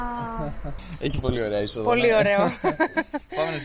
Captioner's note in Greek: γέλια